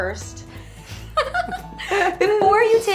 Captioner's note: laughing